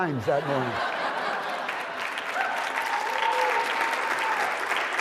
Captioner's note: applause and laughter